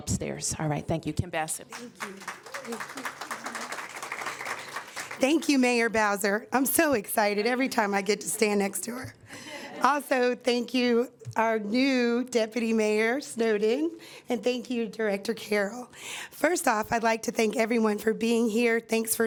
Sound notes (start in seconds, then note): 4.6 applause